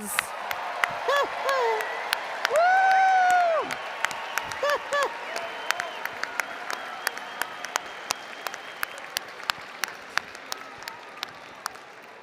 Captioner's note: applause & Cheering